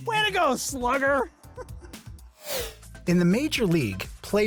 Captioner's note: laugh